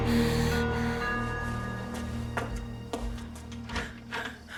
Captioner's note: doorbell ringing